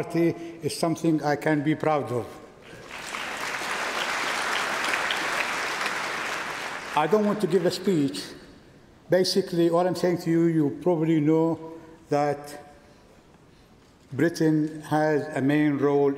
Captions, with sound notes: Coming back to Brighton after 36 years to be an active member of the Labour Party is something I can be proud of. (Applause) I don't want to give a speech.